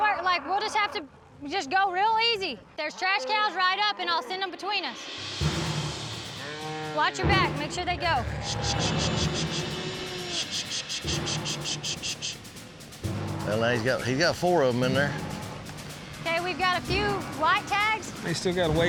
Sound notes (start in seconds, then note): 4.8 cows mooing